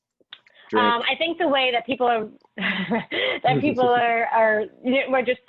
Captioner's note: laughs